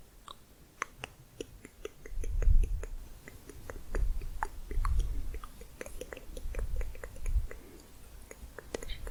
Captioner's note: layered tongue clicking